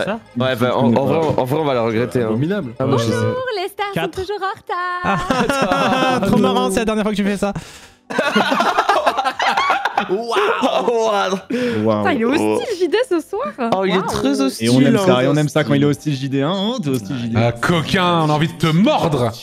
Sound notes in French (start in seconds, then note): 3.0 enjouée; 8.1 rires